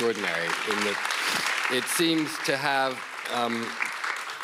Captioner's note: audience applauds